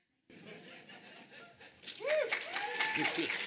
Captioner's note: audience laughing; audience applauding